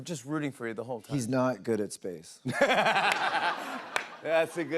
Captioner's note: laughter